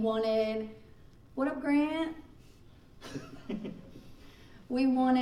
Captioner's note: laughing